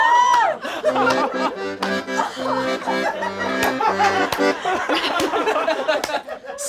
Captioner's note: all laugh; plays accordion; laughter continues